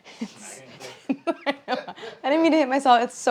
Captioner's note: laughs